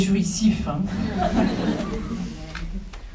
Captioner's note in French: rires